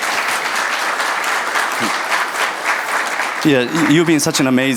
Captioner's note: audience applauding